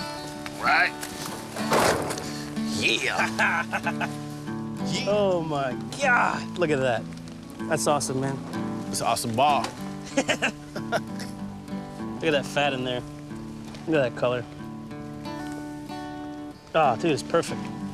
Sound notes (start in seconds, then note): 3.0 laughs